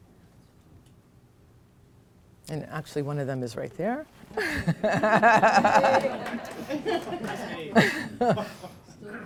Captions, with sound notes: And actually, one of them is right there. [LAUGHTER]